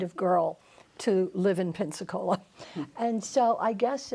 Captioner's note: laughs